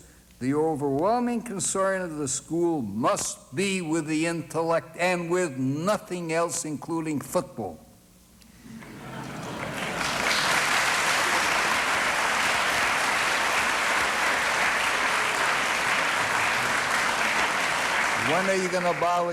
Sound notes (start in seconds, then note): 7.5 applause